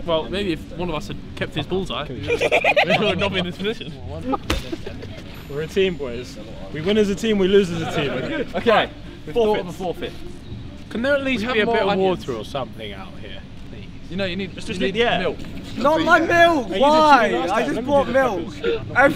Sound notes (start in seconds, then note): 4.4 smack